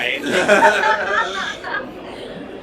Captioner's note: laughter